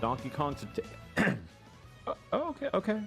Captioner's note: clears throat